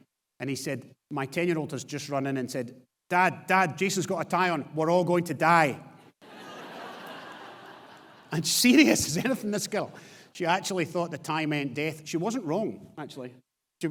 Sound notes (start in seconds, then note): 6.2 audience laughs